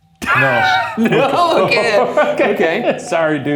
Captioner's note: laugh